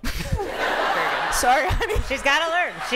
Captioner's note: laughter